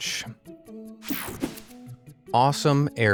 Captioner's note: slide whooshes